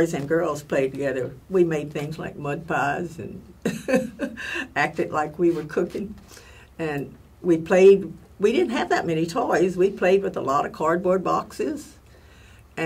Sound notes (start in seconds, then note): 3.7 laugh